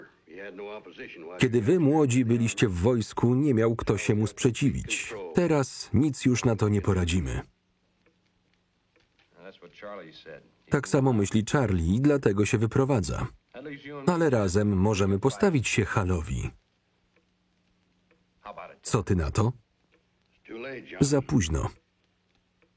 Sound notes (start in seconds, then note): none